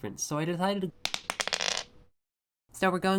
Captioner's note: die rolls